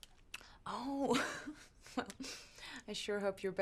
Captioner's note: laughs